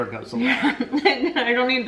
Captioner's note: laughing loudly